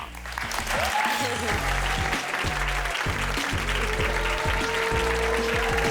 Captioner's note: audience cheering and applauding